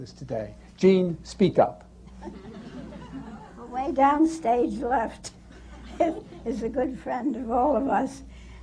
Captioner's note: laughter